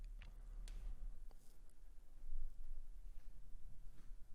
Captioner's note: clicking